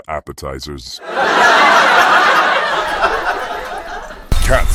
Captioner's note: audience laughing